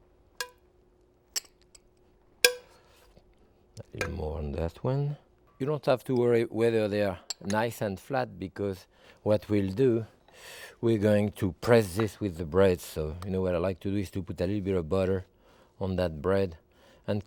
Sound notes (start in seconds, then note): 0.5 spoon tapping